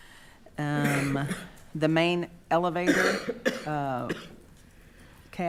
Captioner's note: coughing